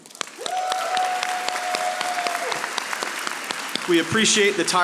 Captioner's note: audience applauding